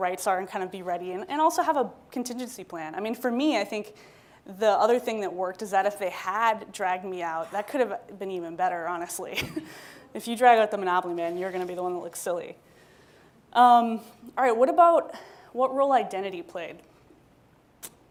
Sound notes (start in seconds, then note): 9.7 laughs